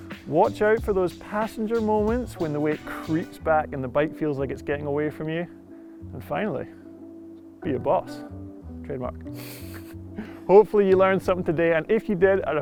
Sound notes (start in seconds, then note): 9.4 giggles